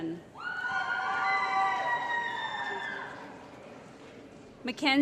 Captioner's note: applause & Cheering